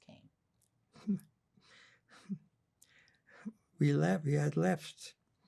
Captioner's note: laughing